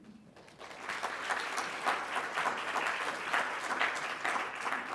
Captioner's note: congregation clapping